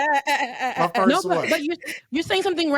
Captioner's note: laughing